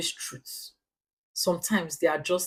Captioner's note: paause